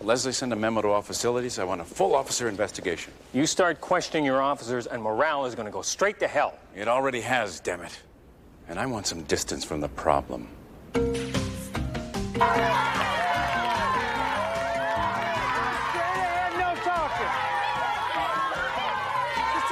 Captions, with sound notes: Leslie, send a memo to all facilities. I want a full officer investigation. You start questioning your officers and morale is gonna go straight to hell. It already has, damn it. And I want some distance from the problem. (determined music) (inmates cheering) Straight ahead, no talking!